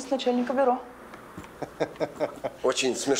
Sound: laughs

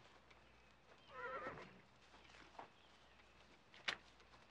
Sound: horse whinnying

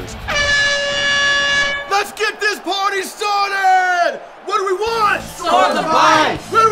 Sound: horn

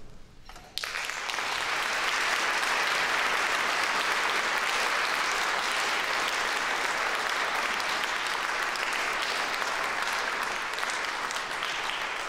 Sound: applause

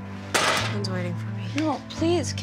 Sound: metal clanks

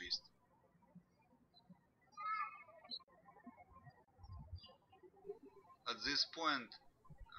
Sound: birds chirping

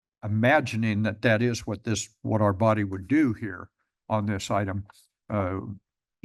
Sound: none

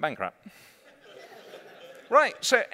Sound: laughter

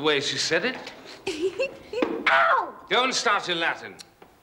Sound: oswald giggles

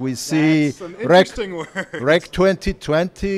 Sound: laughs

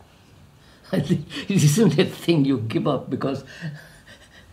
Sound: laughs

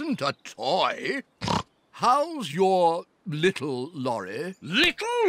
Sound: snorts

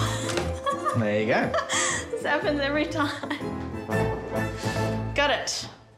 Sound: laughs; giggles

